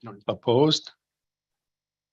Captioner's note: silence